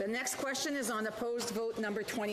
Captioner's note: speaking French